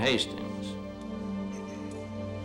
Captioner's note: clears throat